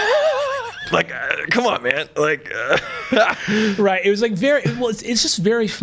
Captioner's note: laughs; both laughing